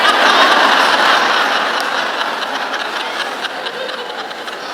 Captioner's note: laughing